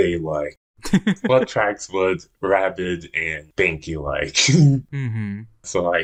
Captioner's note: laughs; laughs